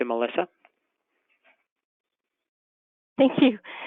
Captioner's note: laughs